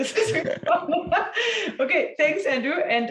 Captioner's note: laughing